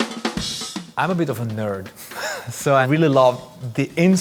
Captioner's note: laughs